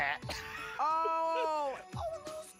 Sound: laughs

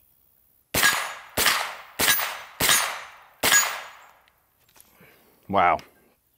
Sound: gun firing and hitting metal repeatedly

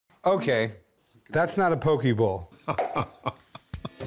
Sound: laughs

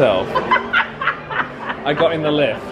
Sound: laughs

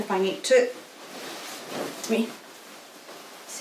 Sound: gown rustling

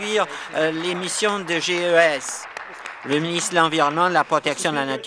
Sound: applause

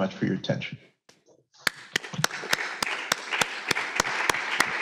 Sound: applause

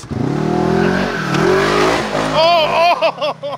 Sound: engine revving

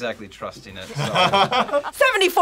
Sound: laughs

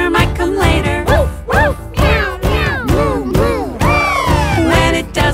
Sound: woof woof, meow meow, moo moo, bbbppp!

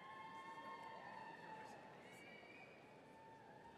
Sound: people cheering

